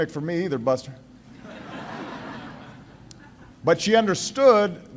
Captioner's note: laughter